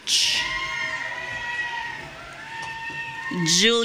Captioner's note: audience cheering